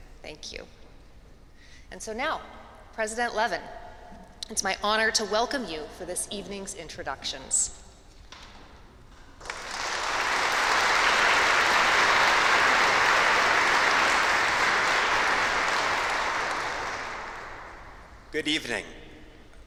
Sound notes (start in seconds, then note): 9.4 applause